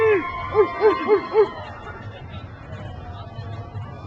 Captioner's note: crowd cheers